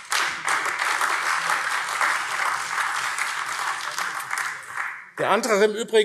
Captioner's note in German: Beifall AfD